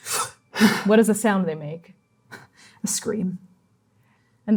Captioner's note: exhaling